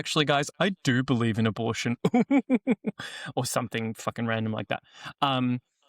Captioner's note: laughs derisively